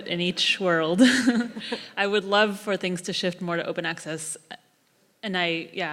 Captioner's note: laugh